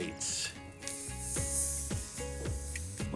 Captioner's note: meat sizzling